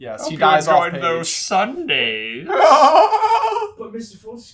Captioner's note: evil laughter